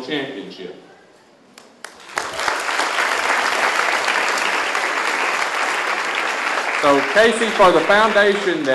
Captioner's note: applause